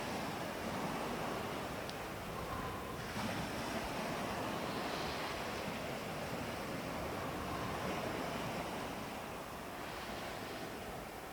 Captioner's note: breathing